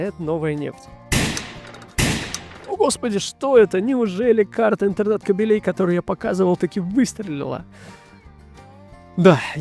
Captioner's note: sound of a gunshot